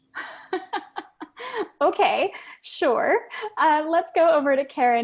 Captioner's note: laugh